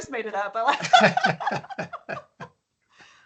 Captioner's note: laughing